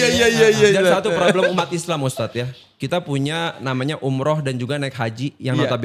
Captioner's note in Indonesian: tertawa